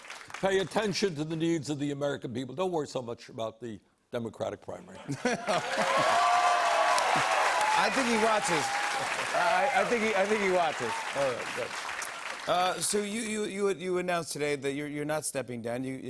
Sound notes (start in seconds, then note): 5.0 laughter; 5.1 cheers and applause